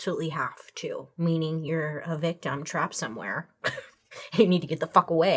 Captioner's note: chuckles